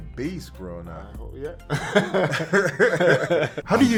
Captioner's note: laughing